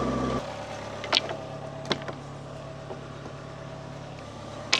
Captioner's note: wood clacks